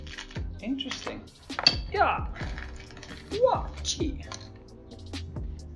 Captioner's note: karate noises